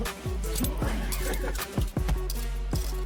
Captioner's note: laugh